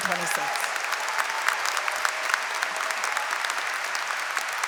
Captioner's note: applause